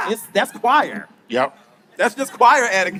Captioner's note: laughing